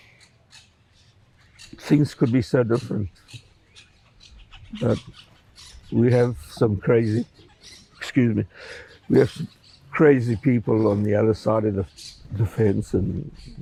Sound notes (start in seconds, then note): 7.9 wiping nose